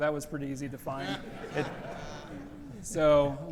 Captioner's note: audience laughs